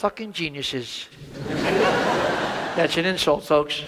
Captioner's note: audience laughs